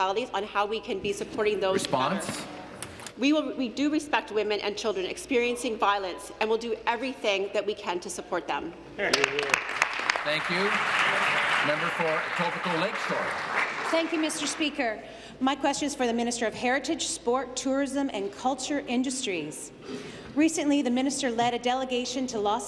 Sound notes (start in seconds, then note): 12.3 applause